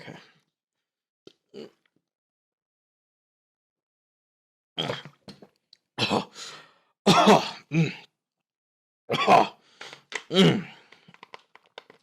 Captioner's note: coughing